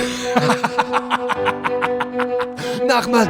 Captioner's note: dirty laugh